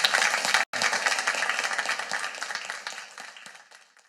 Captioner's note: audience applauding